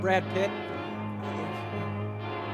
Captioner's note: hooting